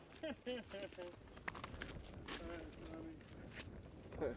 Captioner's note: man laughing